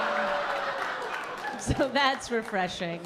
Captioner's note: laughter